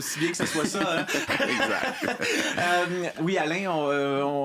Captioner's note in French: rires